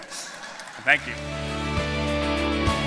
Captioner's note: laughter, applause